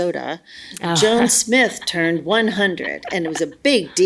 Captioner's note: laughs